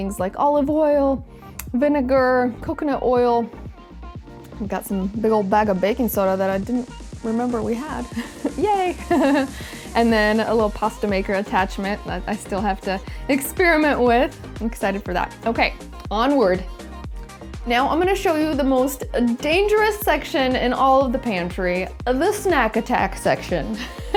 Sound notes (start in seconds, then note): 8.8 laughs; 23.9 laughs